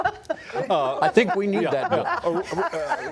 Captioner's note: laughter